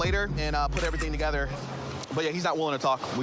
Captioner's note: camera app clicks